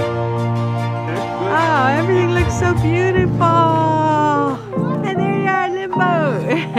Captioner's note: laughter